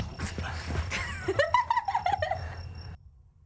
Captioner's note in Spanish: risa